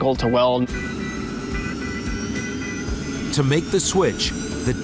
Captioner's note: airplane engine charging